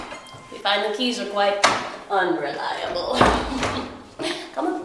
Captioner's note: laughs